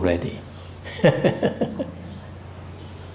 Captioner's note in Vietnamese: laughing